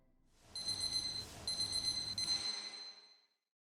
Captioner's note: alarm rings